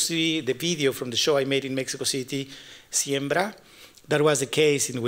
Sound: spanish

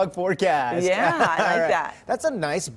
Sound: laughter

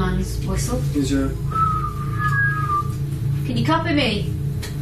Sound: whistling

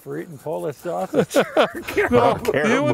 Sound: laughs

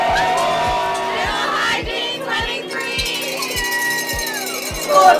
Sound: cowbell rings

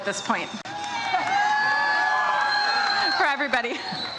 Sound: audience cheers

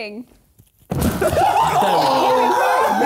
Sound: chair breaks; laughing

